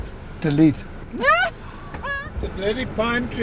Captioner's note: laughs